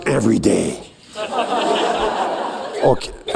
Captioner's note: laughter